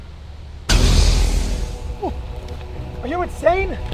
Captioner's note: Lightsaber activating